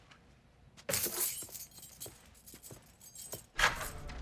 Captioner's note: keys jingle